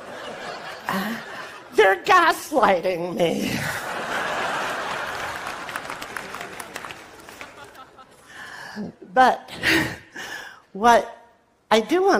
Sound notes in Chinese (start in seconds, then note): 5.1 Laughter; 5.1 笑聲